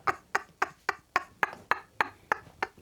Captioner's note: laughing